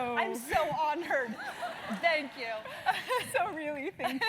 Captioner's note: laugh